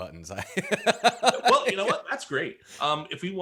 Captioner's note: laughs